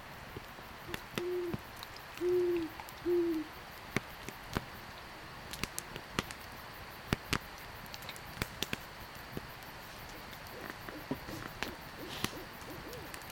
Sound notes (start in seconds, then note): 2.2 owl hooting; 10.0 owl calling out